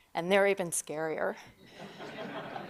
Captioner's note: laughter